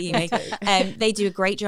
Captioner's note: laughter